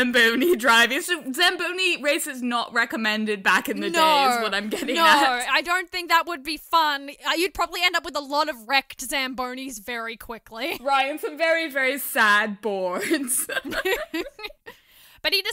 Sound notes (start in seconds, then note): 13.0 laughter